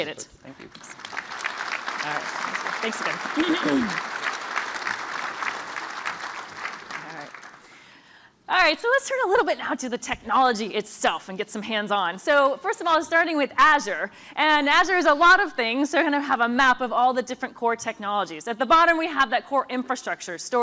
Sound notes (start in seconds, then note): 3.6 applause